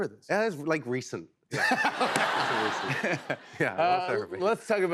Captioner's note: laughter